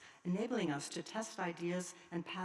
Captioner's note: none